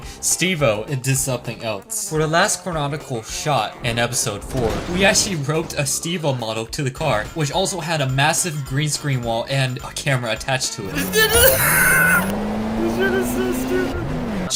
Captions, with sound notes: Steve-O into something else. For the last chronological shot in episode four, we actually roped a Steve-O model to a car. which also had a massive green-screen wall and a camera attached to it. [ laughter ] This shit is so stupid.